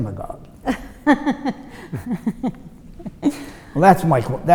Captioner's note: laughs